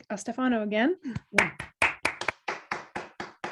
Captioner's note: applause